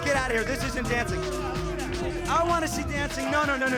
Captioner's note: crowd cheering